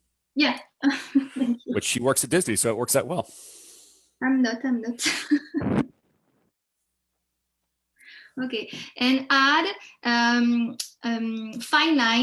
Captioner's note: chuckles